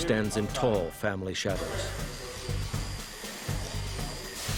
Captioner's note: buzzing